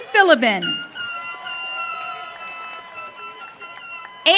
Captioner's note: audience cheering